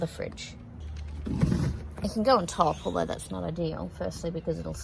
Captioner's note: heavy thud